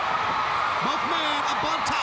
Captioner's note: crowd cheering